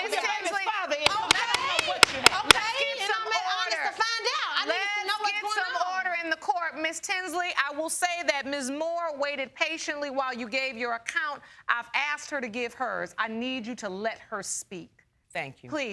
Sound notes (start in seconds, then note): 1.1 gavel banging; 1.1 arguing continues